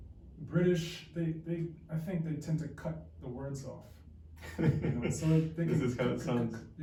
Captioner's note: imitates the sound of a British accent